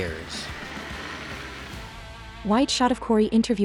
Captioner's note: rock sliding on ice